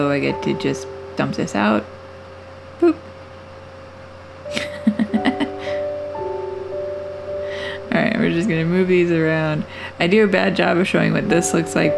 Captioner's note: laugh